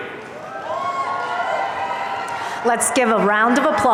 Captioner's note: audience cheering